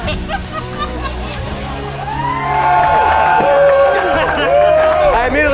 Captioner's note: laughing; crowd cheering